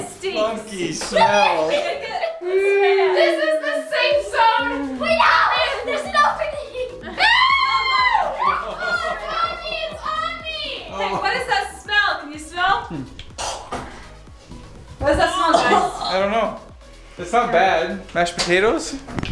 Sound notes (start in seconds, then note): 7.1 screaming; 9.0 laughing; 12.8 gagging